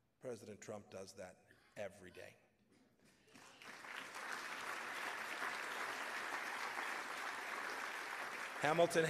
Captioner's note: applause